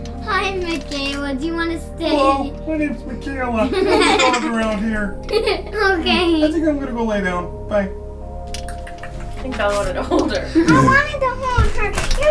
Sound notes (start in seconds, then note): 3.7 laughs; 5.2 giggles